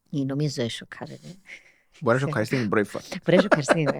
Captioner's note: he laughs